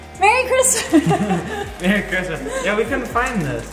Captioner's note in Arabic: ضحك